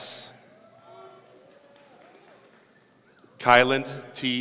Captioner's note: audience cheering